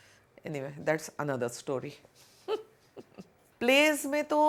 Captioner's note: chuckles